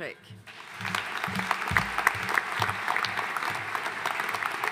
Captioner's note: audience applauding